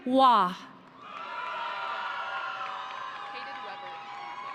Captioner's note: audience cheering